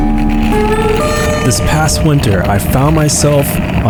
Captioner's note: voiceover